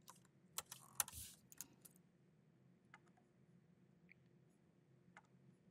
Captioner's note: keyboard clacking continues